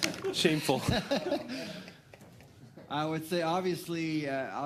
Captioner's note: laughter